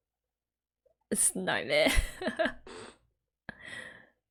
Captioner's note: laughs